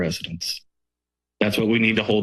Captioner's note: pause